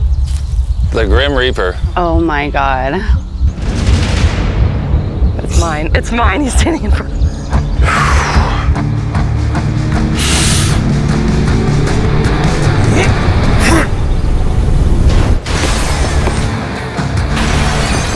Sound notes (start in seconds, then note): 7.5 exhales; 12.8 grunting